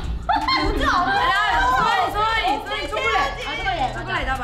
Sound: laughs; speaks in Korean

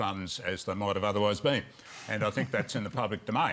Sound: laughs

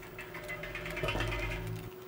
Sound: metal clanging

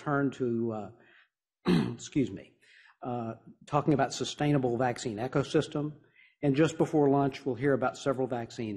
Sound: coughs

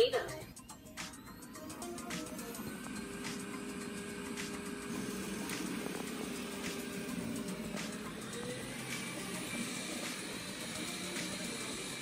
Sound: Roborock vacuum sound

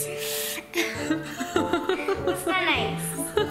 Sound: laughing

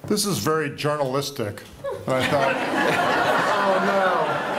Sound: laughter

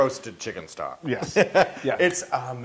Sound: laugh

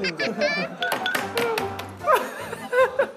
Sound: tapping the desk

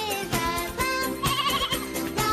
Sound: lamb bleats

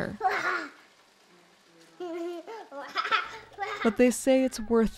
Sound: laughing

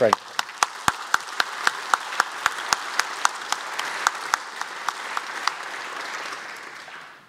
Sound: applause

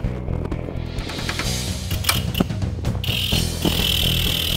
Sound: whirring

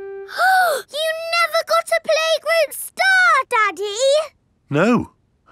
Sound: gasps

